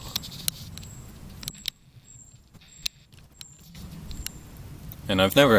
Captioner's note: camera sounds go brrrr